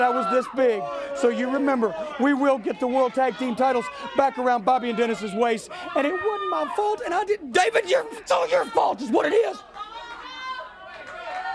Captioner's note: crowd chatter